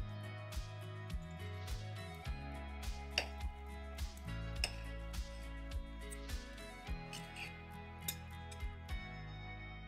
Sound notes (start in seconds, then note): 0.2 gentle upbeat music; 3.1 knife tapping